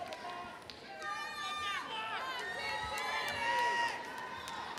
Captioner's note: audience members shouting